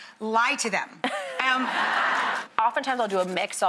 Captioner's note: laughing